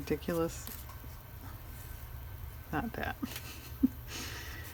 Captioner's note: laughs